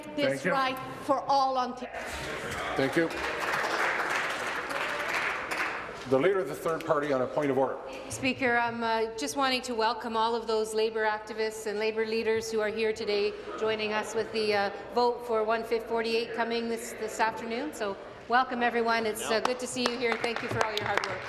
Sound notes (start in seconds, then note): 6.8 applause